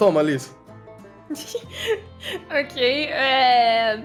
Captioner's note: chuckles